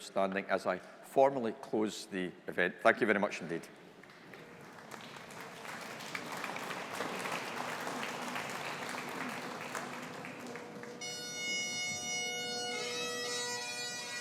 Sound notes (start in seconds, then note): 4.9 audience applauding; 9.8 bagpipes playing